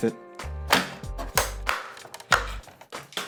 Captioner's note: more poppings